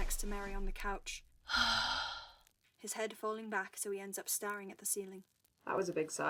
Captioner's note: James sighs